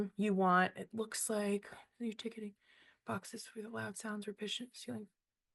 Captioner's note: whispering